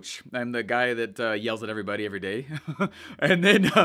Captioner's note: laughs